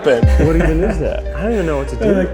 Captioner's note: laughing